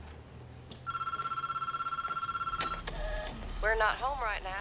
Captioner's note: telephone ringing